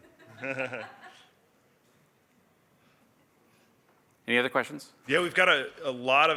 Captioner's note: laughter